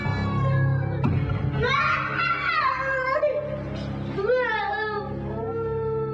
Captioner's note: child crying in pain